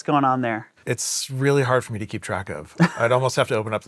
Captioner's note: chuckling